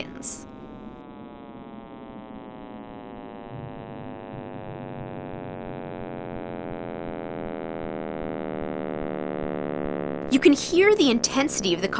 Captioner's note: electronic, buzzing noise, decreasing in pitch